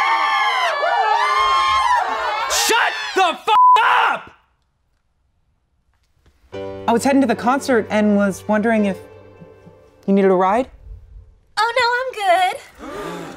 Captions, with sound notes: (cheering continues) - Shut the (beep) up! I was heading to the concert and was wondering if you needed a ride. - Oh no, I'm good!